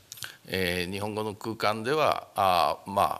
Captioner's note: speaking japanese